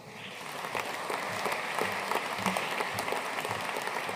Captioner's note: audience applauding